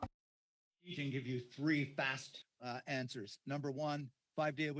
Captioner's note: speaking French